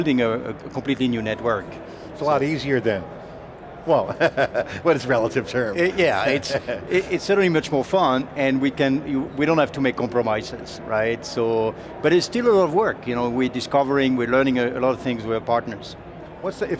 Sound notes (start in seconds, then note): 4.1 laughing